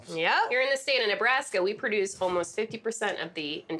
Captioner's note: none